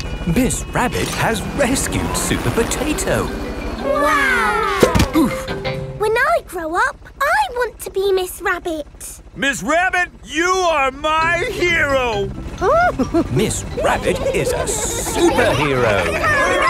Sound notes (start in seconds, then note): 4.1 crowd; 12.6 giggles